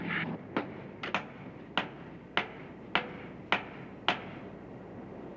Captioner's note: hammering